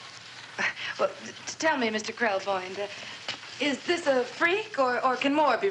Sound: scoffs

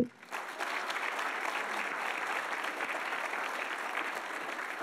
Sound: audience applauding

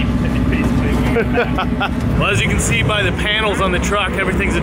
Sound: laughs

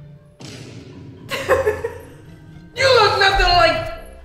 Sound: laughs

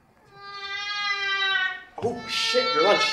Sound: baby cries

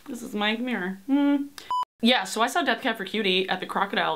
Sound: humming

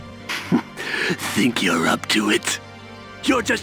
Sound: little laugh

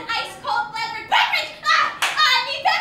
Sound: claps

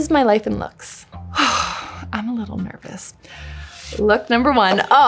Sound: exhales

